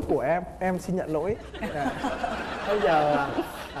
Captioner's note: laughing